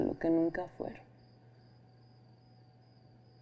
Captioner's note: crickets chirping